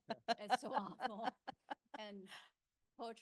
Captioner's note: laughing